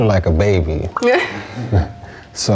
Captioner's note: laughs